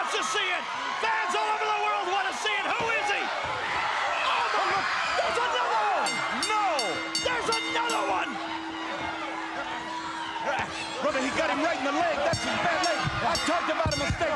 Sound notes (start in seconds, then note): 6.4 bell ringing; 14.1 bell ringing